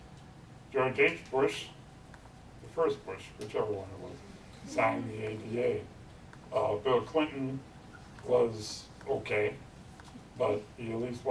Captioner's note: audience chuckles